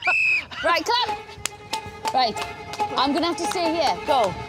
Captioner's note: whistle blows